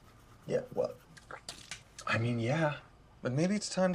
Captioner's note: spits toothpaste